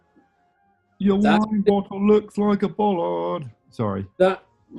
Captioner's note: chants